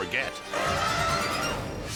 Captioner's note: elephant trumpeting; air whooshes